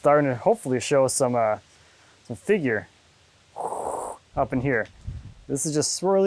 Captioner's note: imitating static